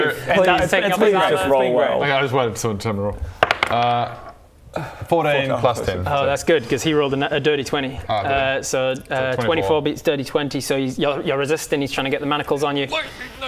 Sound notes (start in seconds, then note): none